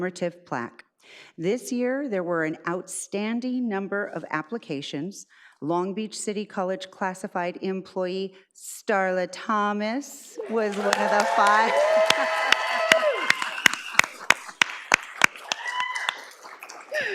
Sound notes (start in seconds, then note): 10.4 audience applauds